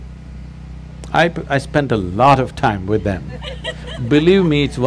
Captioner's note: few laugh